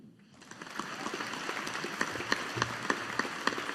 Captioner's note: audience applauding